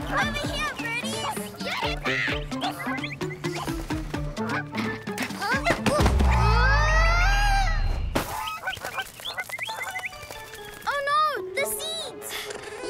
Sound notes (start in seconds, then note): 6.3 grunts